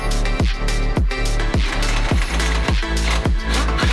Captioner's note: drilling